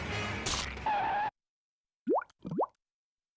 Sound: skidding

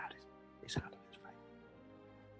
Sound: whispers

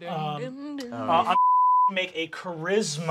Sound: beep

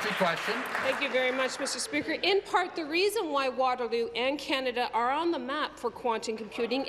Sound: applause

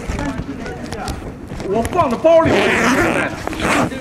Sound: the police opens the camera bag, sound of zip

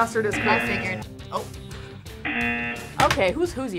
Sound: buzzer

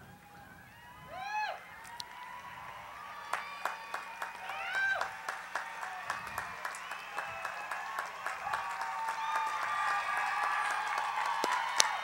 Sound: cheering, Applause

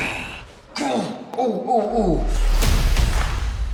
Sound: groaning in pain

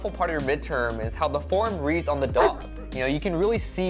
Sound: dog barks

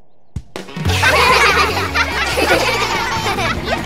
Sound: laughing

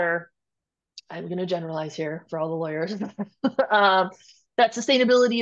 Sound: chuckles

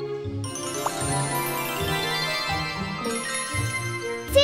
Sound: transformation sound

